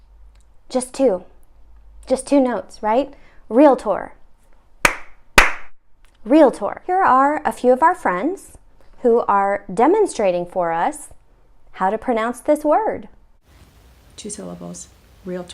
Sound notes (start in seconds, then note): 5.4 clapping